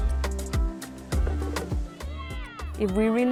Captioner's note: children shouting